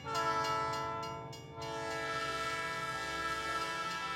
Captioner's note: train hissing